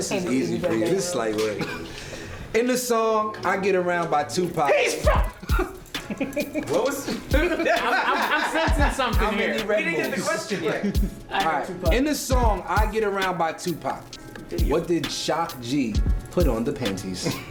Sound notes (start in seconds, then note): 4.6 exclaims